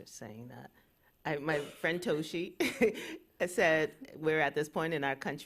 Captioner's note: chuckles